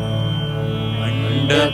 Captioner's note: none